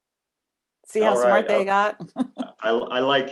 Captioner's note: laughs